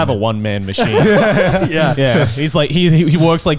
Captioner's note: laughing